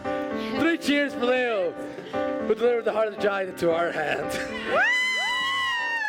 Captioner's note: cheering